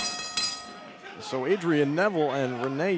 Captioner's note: bell ringing